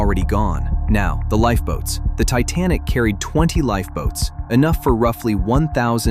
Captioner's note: thoughtful